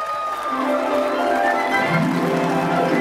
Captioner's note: applause